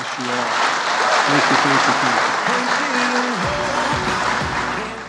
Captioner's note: applause